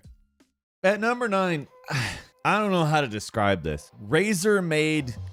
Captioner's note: sighs